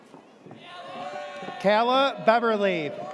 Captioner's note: audience cheers